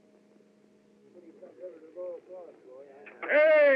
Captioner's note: chattering